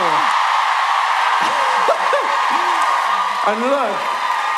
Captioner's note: audience cheering